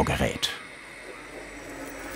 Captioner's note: engine noises